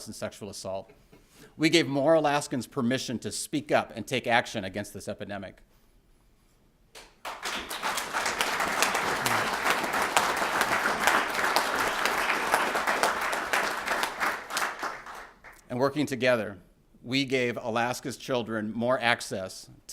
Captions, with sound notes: and sexual assault. We gave more Alaskans permission to speak up and take action against this epidemic. [APPLAUSE] And working together, we gave Alaska's children more access